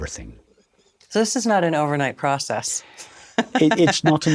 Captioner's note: laughs